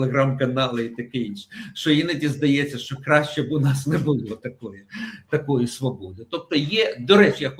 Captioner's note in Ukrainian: сміх